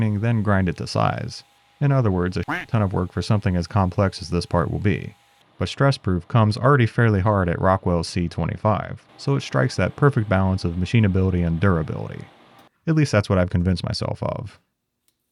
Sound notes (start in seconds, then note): 2.4 duck quacking